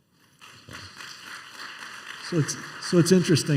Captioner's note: applause